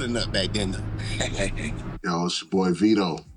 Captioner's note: laughing